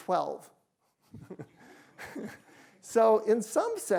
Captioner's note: chuckles